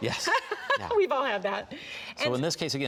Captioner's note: giggling